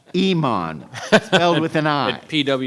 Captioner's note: laughs